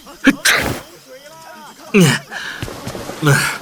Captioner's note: sneeze